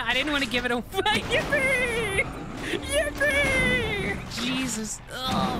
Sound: laughing

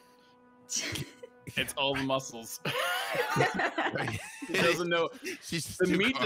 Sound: group laughing

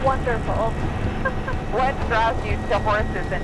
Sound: laughs

